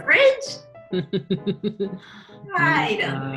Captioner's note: laughs